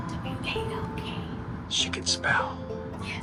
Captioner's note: whispers